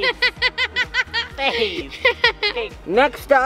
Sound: laughing

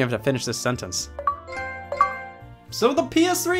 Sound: Xbox and PlayStation sounds

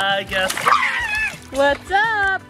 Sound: screaming

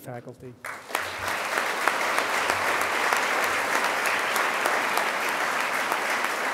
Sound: audience applause

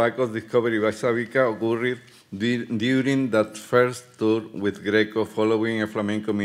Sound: speaking Spanish

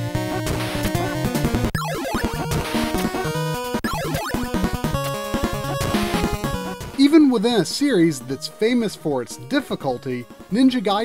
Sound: game audio

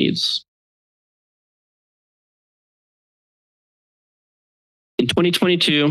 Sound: silence

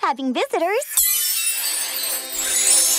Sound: shimmering tone

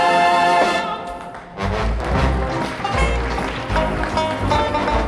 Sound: audience applauds

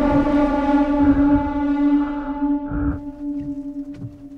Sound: ominous music; heavy breathing

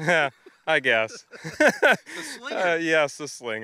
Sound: laughing

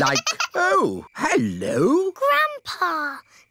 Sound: giggling

